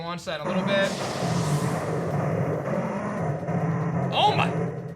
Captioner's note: growls